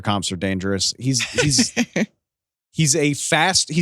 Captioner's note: laughter